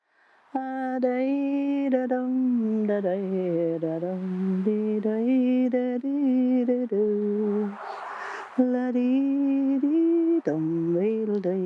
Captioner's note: humming